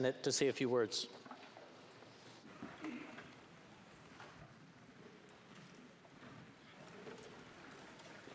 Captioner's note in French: voix de l'interprète